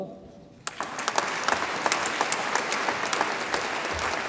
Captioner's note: audience applauds